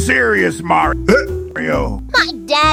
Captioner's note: hiccups